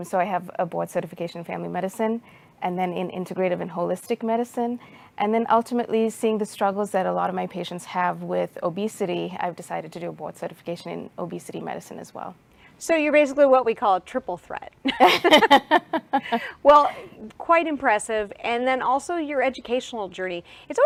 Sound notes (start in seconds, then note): 14.9 laughs loudly